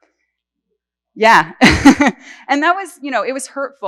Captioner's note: laughs